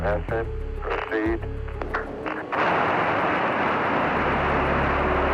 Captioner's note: boosters firing